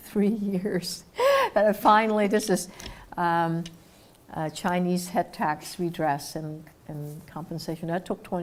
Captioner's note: laugh